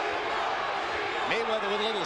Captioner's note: crowd chanting "chico"